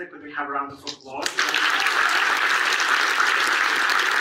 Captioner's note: audience applauds